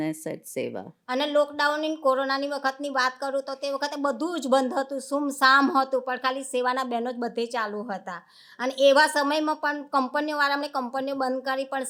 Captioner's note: speaking gujarati